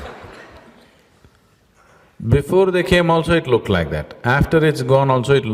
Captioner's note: laughter